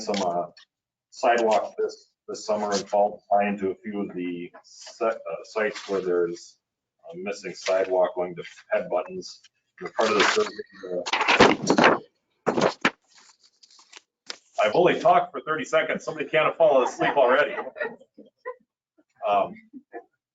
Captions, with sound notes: some sidewalk this summer and fall, tie into a few of the sites where there's missing sidewalk going to head buttons. (microphone cracking loudly) I've only talked for 30 seconds. Somebody can't have fallen asleep already. (laughing)